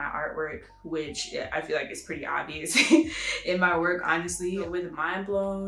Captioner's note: laughs